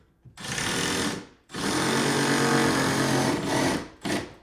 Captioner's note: drill whirring